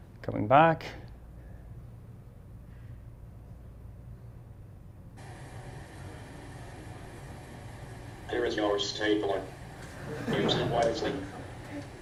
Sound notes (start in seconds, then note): 9.7 class chuckles